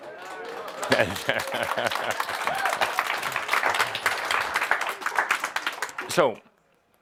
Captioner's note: audience applause